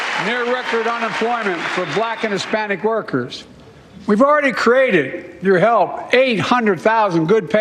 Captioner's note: cheers and applause